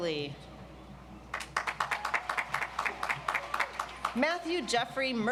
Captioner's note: audience applauds